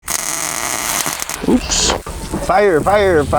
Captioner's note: welder crackling